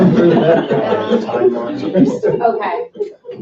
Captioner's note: laughing